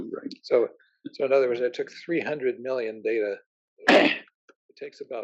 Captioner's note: cough